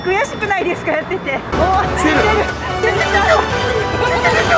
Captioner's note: laughs